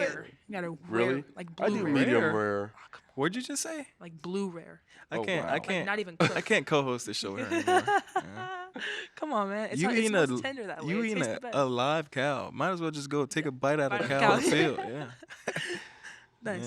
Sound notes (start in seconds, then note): 7.3 laughs; 13.9 all laughing